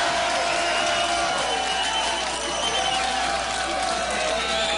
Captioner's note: applause